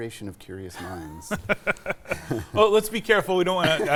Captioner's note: both laugh